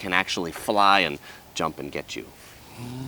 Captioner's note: humming